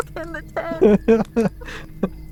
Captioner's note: laughing